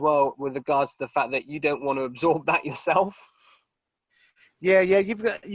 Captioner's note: laughing